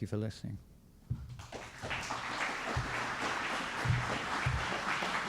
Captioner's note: applause